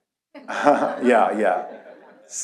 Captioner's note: audience laughs; laughs